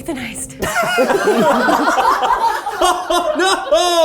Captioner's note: all laughing